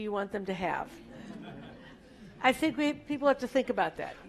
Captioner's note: laugh